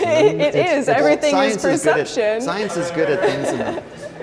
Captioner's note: laughs